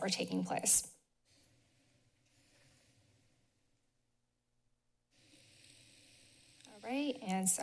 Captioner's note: silence